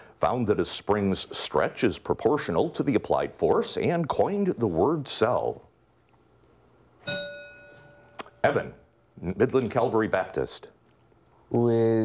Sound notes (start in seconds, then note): 7.0 bell rings